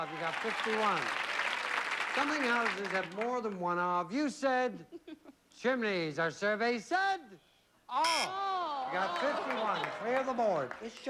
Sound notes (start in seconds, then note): 6.9 buzzer